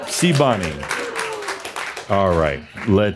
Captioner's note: audience applause